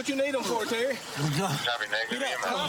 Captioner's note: panting